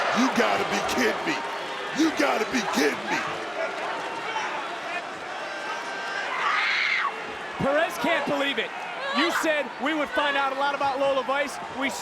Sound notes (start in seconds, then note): 6.6 Perez shrieks